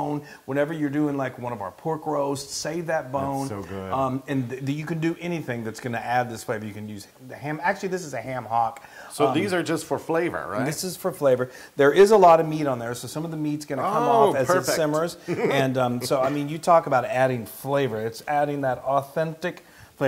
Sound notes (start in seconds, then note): 13.8 laugh